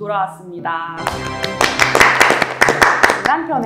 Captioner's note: applause